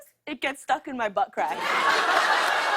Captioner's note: laughter